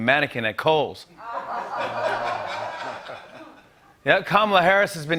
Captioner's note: laughter